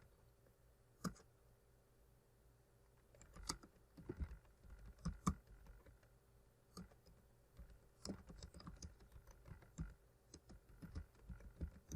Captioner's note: typing